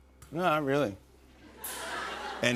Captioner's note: laughter